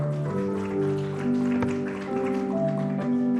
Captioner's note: applause